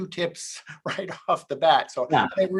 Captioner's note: laughs